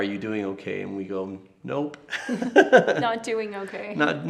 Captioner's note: laughs